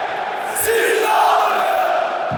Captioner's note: chanting